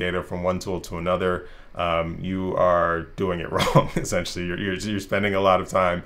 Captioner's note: rires